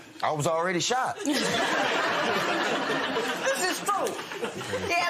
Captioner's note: laughter